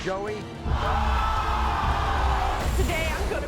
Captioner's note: audience yells